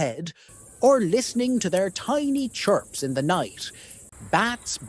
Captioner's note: bat chirping